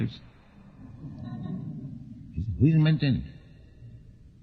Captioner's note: laughter